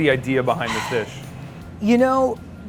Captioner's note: sighs